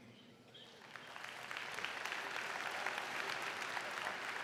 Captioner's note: crowd clapping